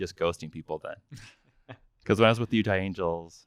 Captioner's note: laughing